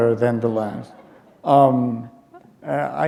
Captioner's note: laughter